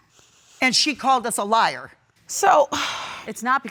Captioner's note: none